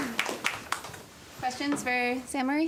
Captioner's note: applause